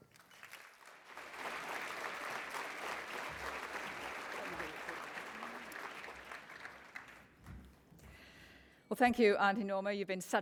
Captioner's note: applause